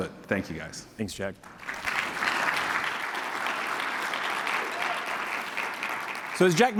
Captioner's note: applause